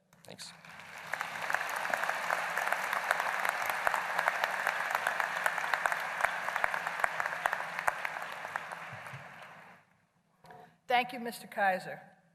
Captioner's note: applause